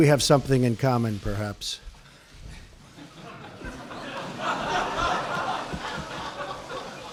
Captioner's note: laughter